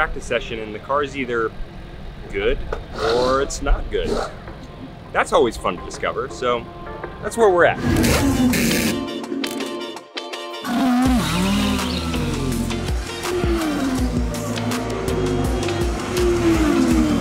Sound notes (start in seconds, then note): 8.0 drill whirring; 8.0 upbeat music; 10.9 cars roaring